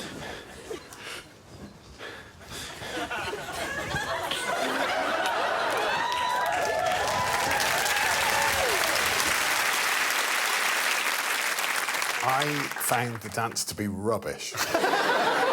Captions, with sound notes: [whooping and cheering] [applause] I found the dance to be rubbish.